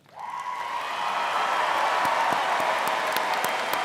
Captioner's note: audience cheering